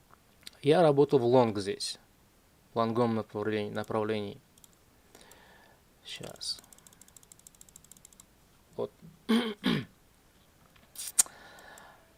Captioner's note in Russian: откашливается; кашель